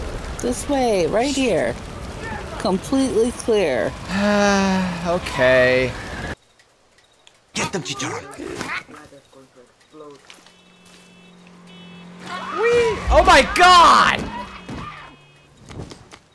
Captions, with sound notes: This way, right here. This way, right here. Completely clear. Completely clear. (sigh) Okay... (sigh) Okay... Whee- Whee- OH MY GOD! OH MY GOD!